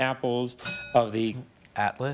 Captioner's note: bell dings